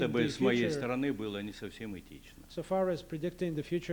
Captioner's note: non-english speech